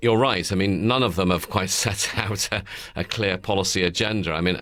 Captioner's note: chuckles